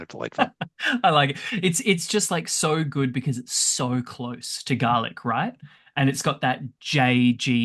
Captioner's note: laughs